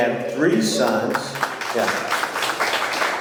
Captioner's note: audience clapping